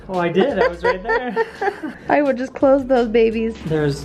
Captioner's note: laughs